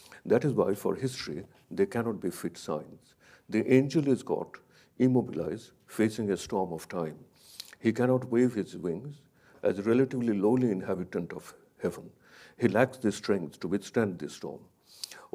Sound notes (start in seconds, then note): none